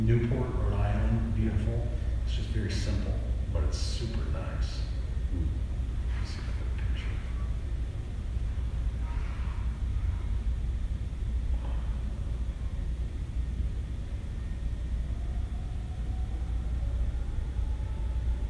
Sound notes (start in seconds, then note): 6.8 whispers